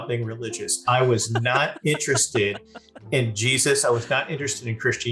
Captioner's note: laughing